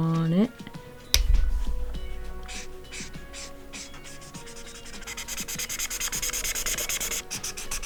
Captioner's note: more marker scrape sounds